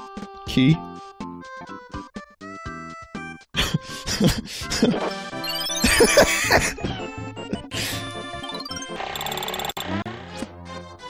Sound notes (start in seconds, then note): 3.5 laughs